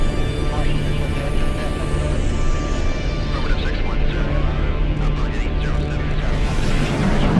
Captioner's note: spaceship whirring